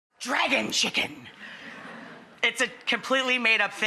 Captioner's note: audience laughs